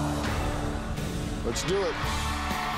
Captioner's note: audience gasps